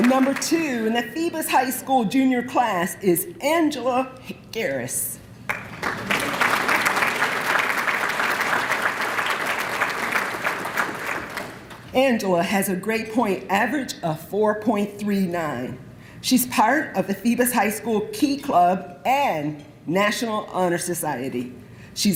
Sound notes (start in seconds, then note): 5.4 applause